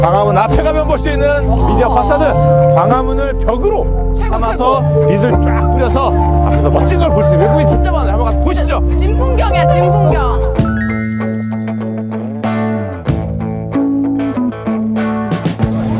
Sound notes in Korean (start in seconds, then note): 10.8 반짝이는 효과음; 12.2 경쾌한 음악